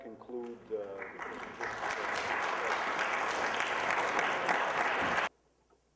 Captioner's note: applause